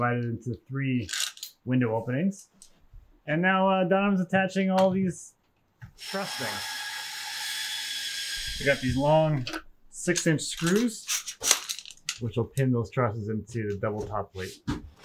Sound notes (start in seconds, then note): 6.0 drill squealing drowns out